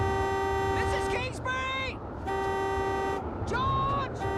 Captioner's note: continues to honk